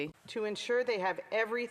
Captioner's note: speaking French